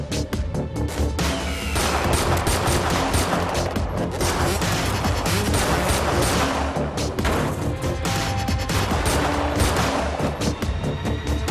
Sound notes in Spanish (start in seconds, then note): 1.1 Disparos